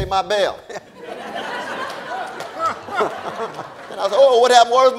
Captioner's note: audience laughing